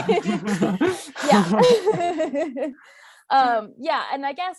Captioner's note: all laughing